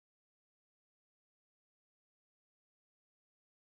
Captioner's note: none